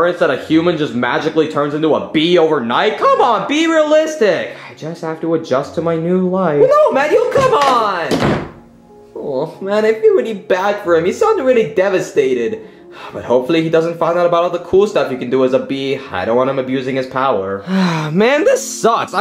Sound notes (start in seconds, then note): 7.2 door thuds; 12.7 sighing